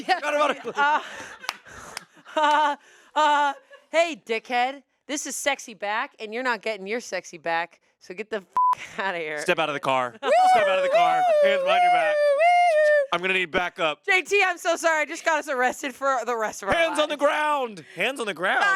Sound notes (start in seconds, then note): 2.6 laughs; 8.5 beep; 10.3 imitates siren